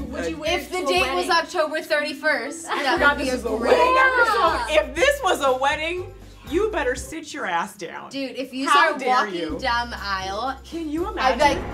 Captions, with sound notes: - If the date was October 31st. (all laughing) - If this was a wedding, you better sit your ass down. How dare you? Can you imagine?